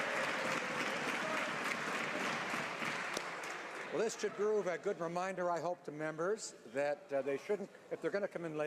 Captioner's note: shouting